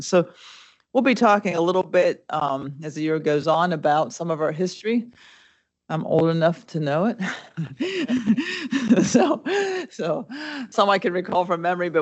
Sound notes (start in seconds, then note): 7.2 chuckles